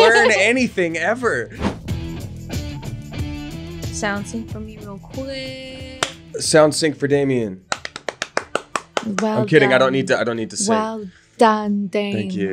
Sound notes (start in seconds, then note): 1.7 upbeat rock music; 6.0 clapping; 7.7 clapping